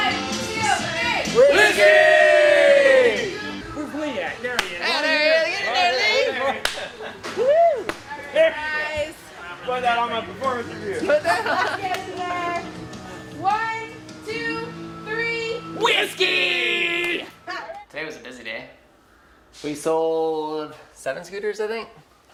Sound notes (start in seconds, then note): 1.6 shouting; 11.0 laughing; 16.1 all Shouting